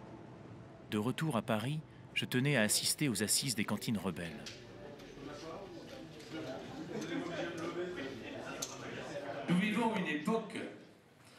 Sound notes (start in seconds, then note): 4.6 indistinct chatter